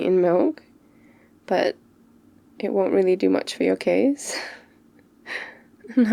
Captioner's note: laughs